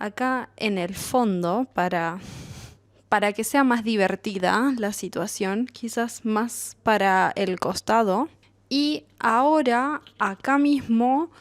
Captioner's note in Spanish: resoplido